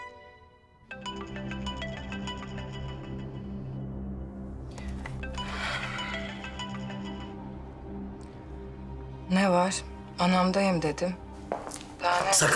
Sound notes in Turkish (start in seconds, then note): 1.0 Telefon çalıyor